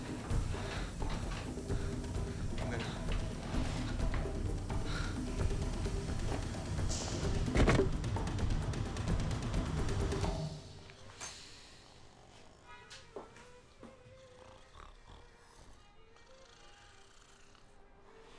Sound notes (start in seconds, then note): 7.2 Frank thumps on the floor; 10.3 light classical music; 11.7 light snoring